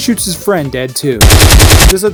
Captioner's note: machine gun fire